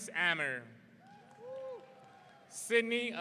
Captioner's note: audience cheering